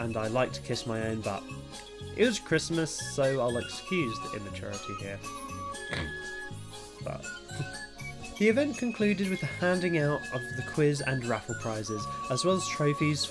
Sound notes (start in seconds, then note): 5.8 snort